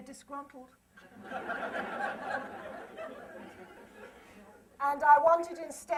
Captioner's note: laughter